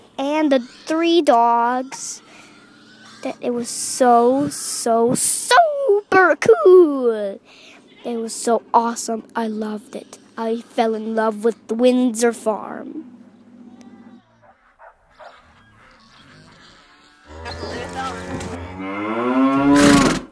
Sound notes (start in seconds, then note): 14.3 barking